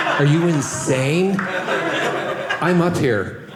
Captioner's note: audience laughing